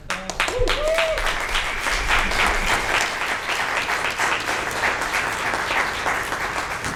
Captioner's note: audience applauds